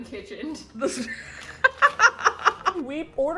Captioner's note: both laugh